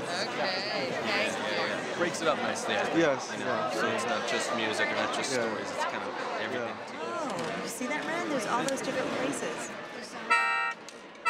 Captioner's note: audience talking